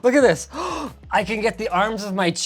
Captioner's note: gasping